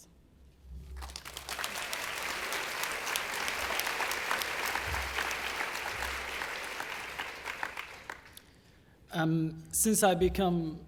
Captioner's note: applause